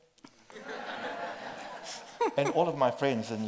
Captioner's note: group laughs